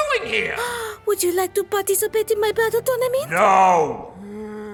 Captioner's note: le gasp